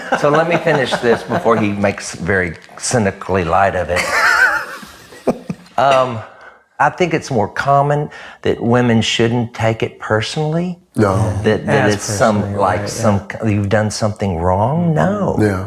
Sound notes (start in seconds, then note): 3.9 laughs